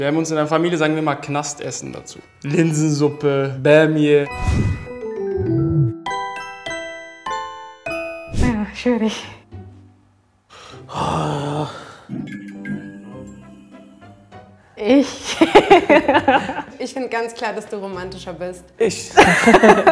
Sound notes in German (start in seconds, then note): 4.8 Ruhige, klimpernde Musik; 10.9 Stöhnen; 12.4 Schelmische Musik; 14.7 lachend; 19.1 Lachen